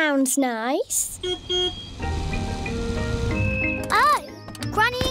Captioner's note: car horn beeps